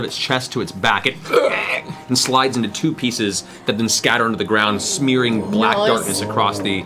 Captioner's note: screeching